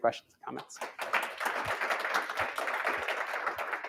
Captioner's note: applause